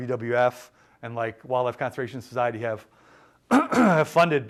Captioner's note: clears throat